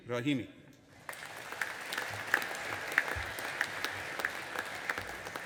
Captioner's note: audience applauding